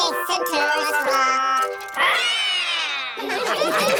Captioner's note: all roar; all laughing